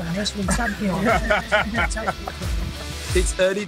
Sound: laughter

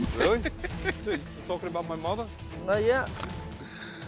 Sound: laughs

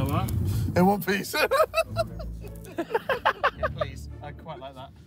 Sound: laughs

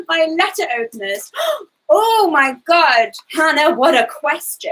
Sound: gasps

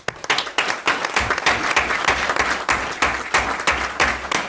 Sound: group applauds

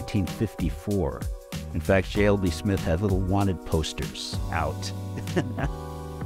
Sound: chuckles

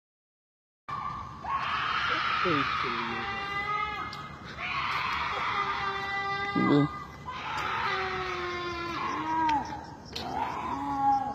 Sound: ghastly gutteral screaming in the distance

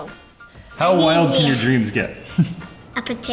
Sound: laughs

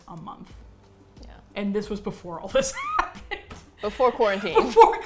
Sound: laughs

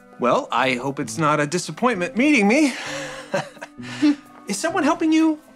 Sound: chuckling

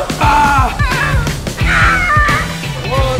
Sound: mimics hawk cry

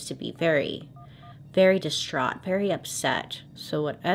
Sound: faint phone dial

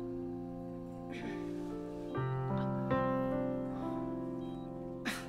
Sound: Sarah clears her throat

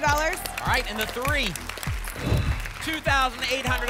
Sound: whoosh

